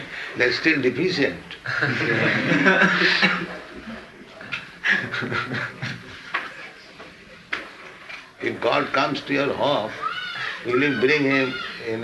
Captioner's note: laughter